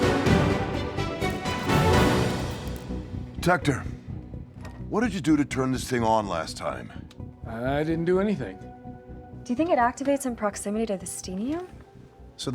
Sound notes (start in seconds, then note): 2.3 light buzzing